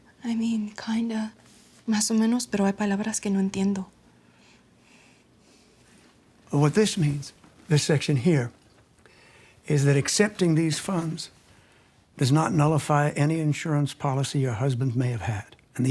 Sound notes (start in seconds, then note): 2.0 speaks Spanish